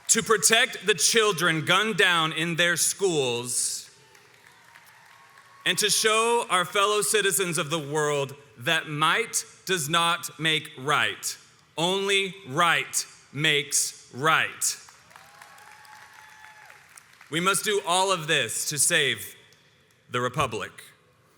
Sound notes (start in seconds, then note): 3.9 crowd applauds